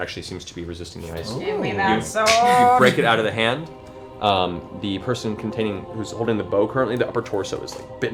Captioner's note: cracking